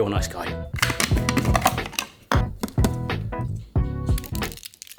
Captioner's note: upbeat music; blender rattling; salt crackling; upbeat music